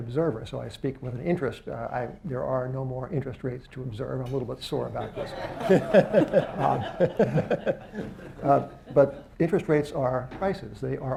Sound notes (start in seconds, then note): 7.1 laughter